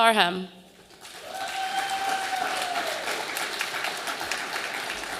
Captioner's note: audience applauding